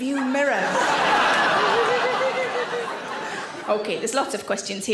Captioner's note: audience laughs